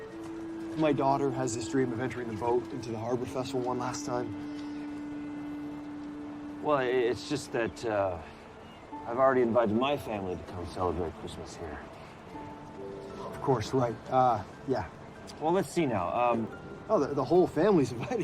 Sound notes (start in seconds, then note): none